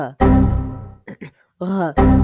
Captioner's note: clears throat